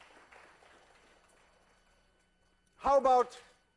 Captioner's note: class applauds